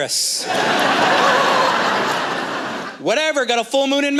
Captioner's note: laughter